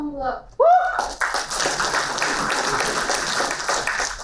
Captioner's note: applauding